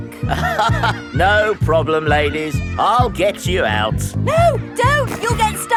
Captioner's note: chuckles